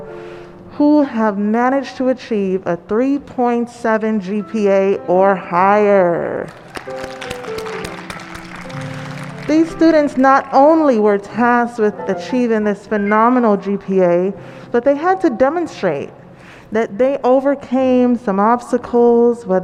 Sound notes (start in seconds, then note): 6.4 applause & cheers